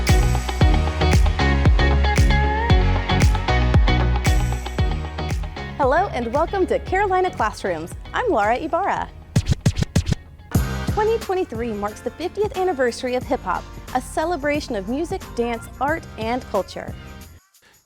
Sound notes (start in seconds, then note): 9.3 vinyl record scratching